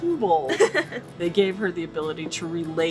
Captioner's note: laughing